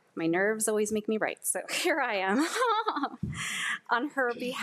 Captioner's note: laughs